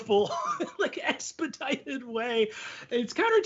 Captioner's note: laughing